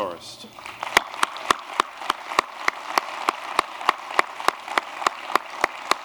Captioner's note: applause